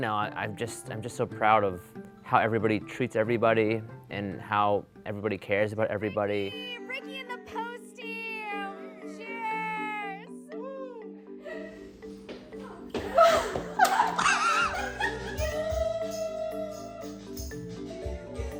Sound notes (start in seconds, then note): 13.3 crew laughing; 15.5 crew cheering